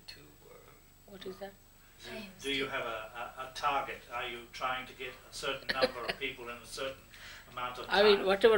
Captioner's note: shri mataji laughs